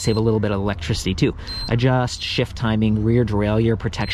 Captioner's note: bike beeps